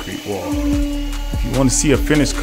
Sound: concrete vibrator whirring

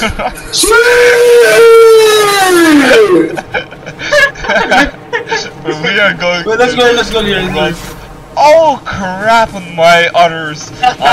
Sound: vicious screaming

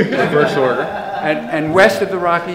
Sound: audience laughs

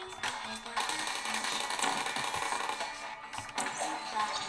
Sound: turret firing

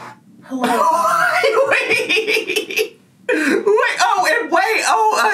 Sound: laughs

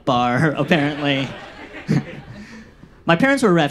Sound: audience laughs

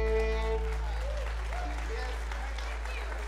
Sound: audience applauding

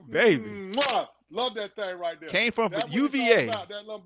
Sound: kissing noise

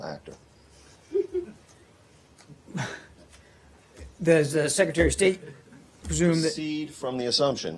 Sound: laughter

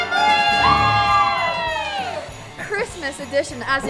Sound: shouting

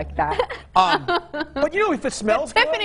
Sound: all laugh

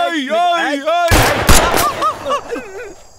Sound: gunshot

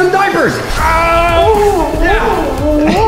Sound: yells

